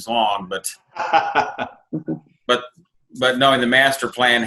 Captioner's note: laughing